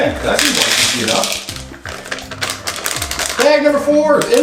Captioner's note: chocolate rattling